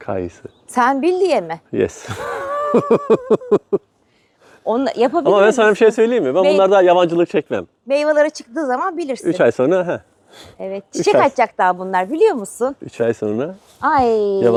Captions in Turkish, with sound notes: kayısı. Sen bildiğie mi? Yes. [kahkaha] On yapabilir ama ben sana bir şey söyleyeyim mi? Ben bunlarda yabancılık çekmem. Meyvelara çıktığı zaman bilirsin. 3 ay sonra. He evet. Çiçek açacak daha bunlar biliyor musun? 3 ay sonra. Ay